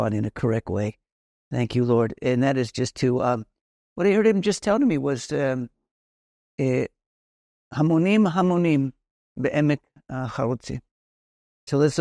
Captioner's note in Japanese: ヘブライ語